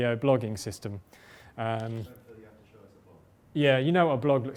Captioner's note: voiceover